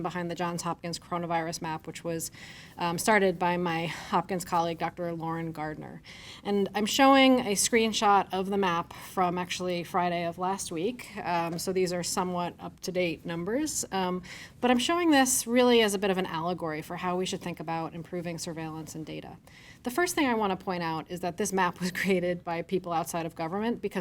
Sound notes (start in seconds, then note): 22.0 chuckles